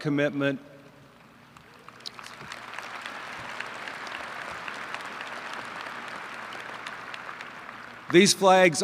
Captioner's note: applause